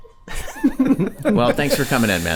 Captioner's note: all chuckling